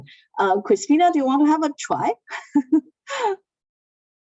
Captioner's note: laughs